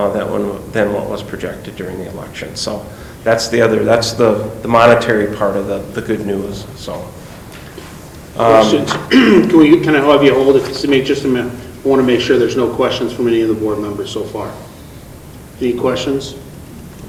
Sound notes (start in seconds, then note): 8.8 clears throat